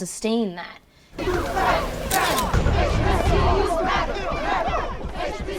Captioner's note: crowd